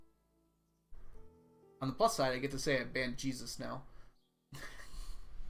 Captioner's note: laughs